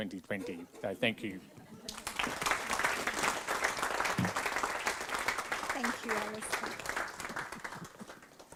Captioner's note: applause